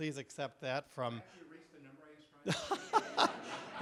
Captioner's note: laughing